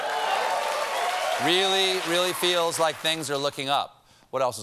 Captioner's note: applause